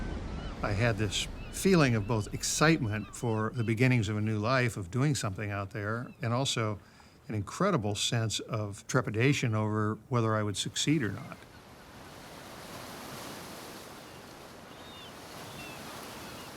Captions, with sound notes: I had this feeling of both excitement for the beginnings of a new life of doing something out there and also an incredible sense of trepidation over whether I would succeed or not. (waves sloshing)